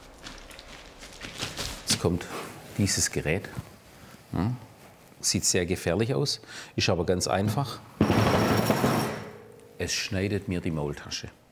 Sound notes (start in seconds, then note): 8.0 loud rattling